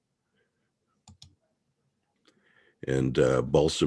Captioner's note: mouse clicking